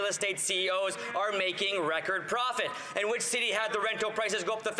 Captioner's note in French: voix de l'interprète